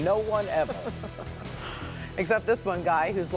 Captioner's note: laughter